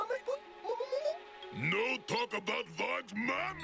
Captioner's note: baby talk